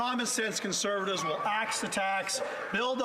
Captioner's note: some Applause